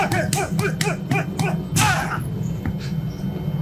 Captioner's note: grunting